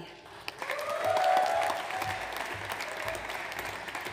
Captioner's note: audience applauds